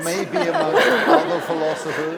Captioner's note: laughter